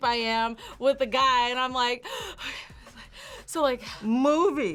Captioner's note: panting